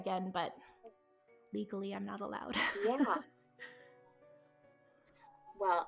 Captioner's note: laughs